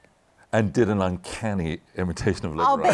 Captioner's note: laughter